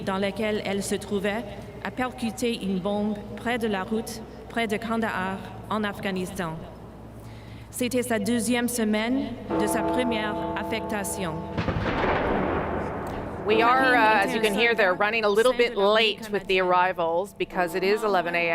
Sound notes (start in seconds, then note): 4.5 speaking French